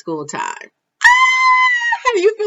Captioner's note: screaming